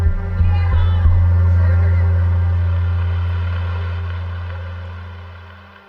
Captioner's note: protesters chanting; dramatic music